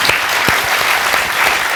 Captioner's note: applause continues until end